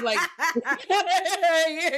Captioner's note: laughing